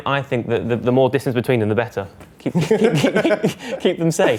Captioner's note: laugh